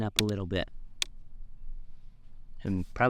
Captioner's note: snap sound